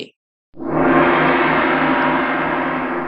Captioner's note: gong noise